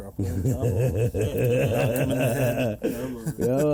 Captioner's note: group laughs